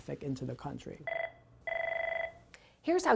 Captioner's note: telephone ringing